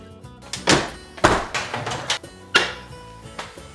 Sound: clacking

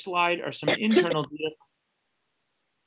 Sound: panel member coughing

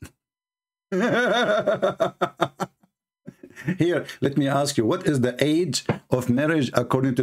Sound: Ketawa

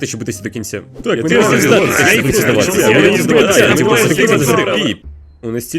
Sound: the crowd starts to make motivational noise

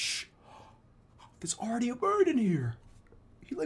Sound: gasp

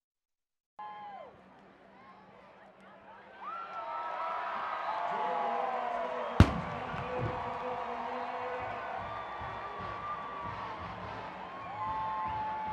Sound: crowd Cheering

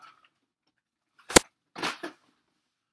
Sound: mlg hitmarker

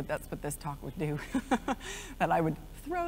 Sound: laughs

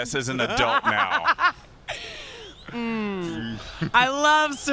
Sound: laughs

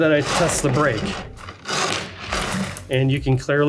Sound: grinding

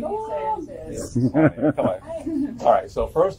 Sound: laughing

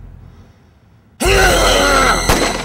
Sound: Romero screams; gun fires

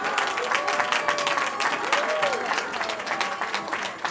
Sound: cheering

